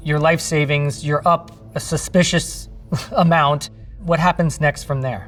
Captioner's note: laughing